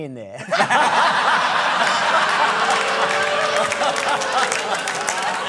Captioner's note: laughter